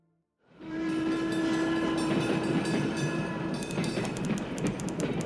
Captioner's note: bell ringing, whistle blaring